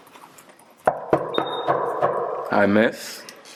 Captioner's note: knock on the door